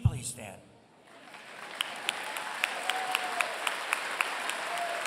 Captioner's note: applause